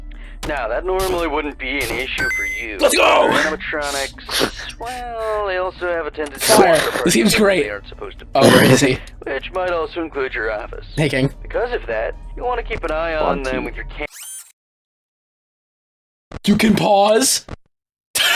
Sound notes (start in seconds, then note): 3.8 heavy breathing; 8.8 weird laugh sound